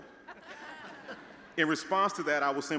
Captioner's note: all laughing